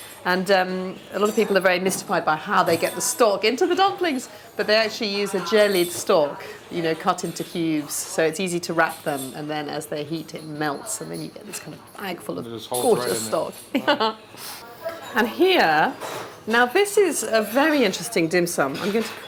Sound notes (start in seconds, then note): 13.7 laughs